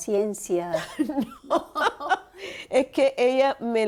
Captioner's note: risas